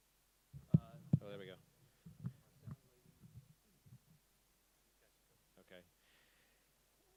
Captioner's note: tapping microphone